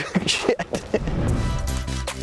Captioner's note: laughs; upbeat music